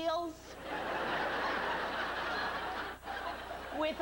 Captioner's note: laughter